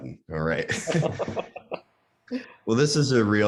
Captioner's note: laughing